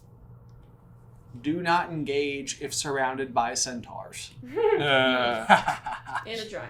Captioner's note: team laughter